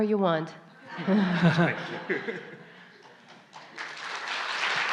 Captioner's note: /Questioner/Audience Laughter